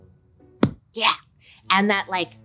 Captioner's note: smacks chair